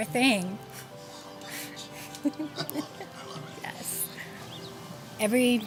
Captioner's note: laughter behind the camera - “...I love it..”